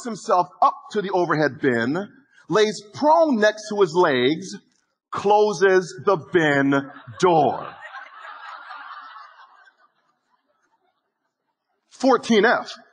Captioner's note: audience laughing